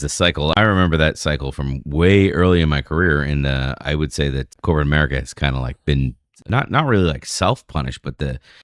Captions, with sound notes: cycle I remember that cycle from way early my career. And [UH] I would say that corporate America has kind like been not really like self -punish but the